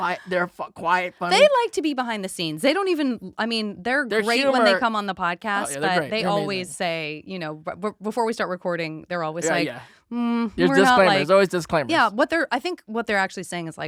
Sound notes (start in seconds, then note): none